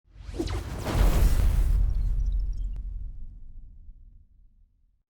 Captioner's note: electronic SFX booming